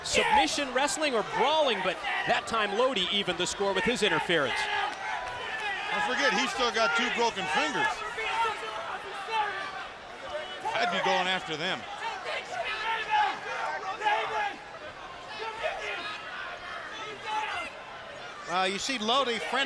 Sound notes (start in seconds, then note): 11.9 crowd chatter